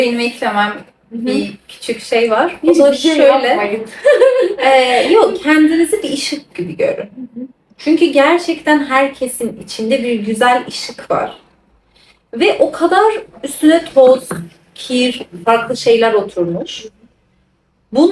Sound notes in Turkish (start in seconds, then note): 3.8 kahkaha